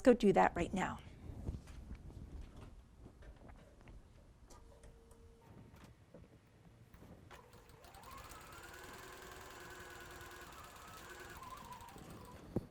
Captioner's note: sewing